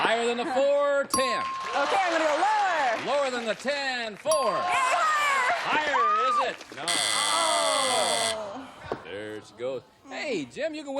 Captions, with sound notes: I'd like to go higher. - Higher than the four. 10. - OK, I'm going to lower. - Lower than the 10. Four. - Yay! Higher. - Higher. Is it? No. [buzzer] There she goes.